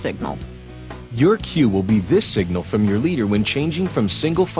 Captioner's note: voiceover